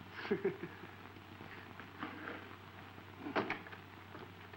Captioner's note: George laughing